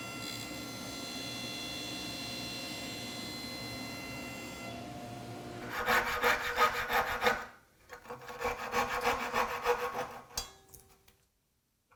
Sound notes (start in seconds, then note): 7.9 coping-saw on wood rasping